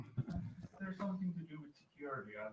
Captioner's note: laughter